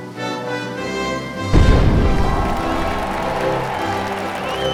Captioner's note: 🎼 Patriotic Music🎵; 👏 Cheers😮; 💥🧨Boom💥; 🎼 Patriotic Music🎵; 👏 Cheers😮